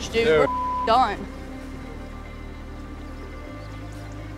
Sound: beep

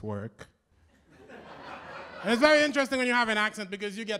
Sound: laughter

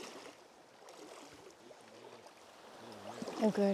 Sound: water whirling

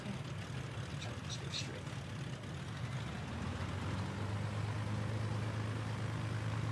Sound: engine roaring

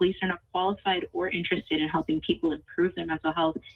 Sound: ~audio distortion~

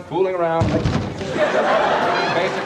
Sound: crashes; laughter

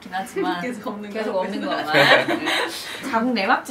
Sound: haha

